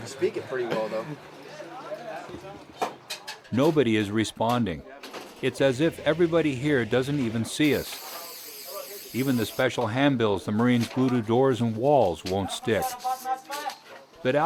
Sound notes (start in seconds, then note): 3.6 voiceover